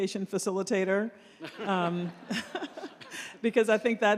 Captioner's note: laughter